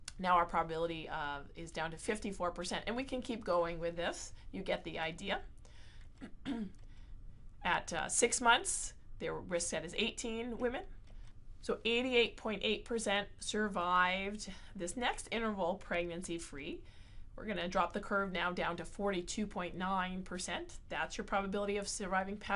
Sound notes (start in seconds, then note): 6.2 cough